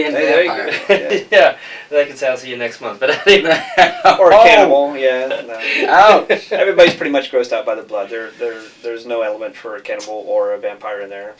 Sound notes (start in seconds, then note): 3.0 laughter